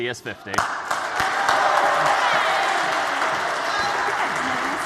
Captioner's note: applause